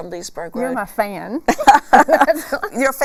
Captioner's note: laughing